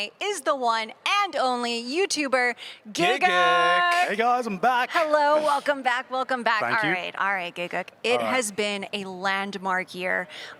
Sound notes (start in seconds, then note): none